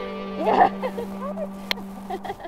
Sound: laughs

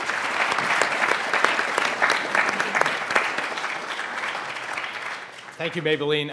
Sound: panel and audience applauds

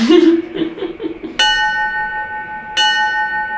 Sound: both laugh; dinging

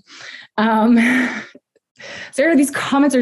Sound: chuckling

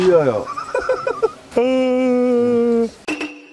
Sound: yawning

